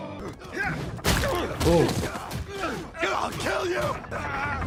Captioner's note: grunting